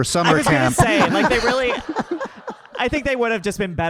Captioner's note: audience laughing